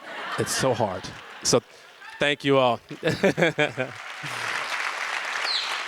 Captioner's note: audience laughs; laughs; audience applause